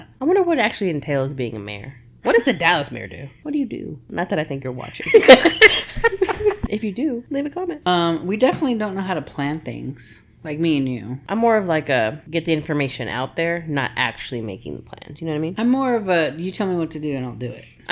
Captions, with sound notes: I wonder what actually entails being a mayor. What does the Dallas mayor do? What do you do? Not that I think you're watching. [LAUGHTER] If you do, leave a comment. We definitely don't know how to plan things, like me and you. I'm more of like a get the information out there, not actually making plans. You know what I mean? I'm more of a you tell me what to do and I'll do it.